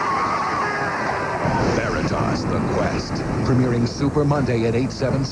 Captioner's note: screams